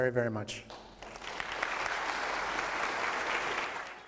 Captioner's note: applause